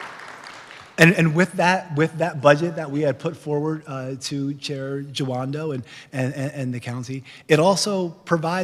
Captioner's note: clapping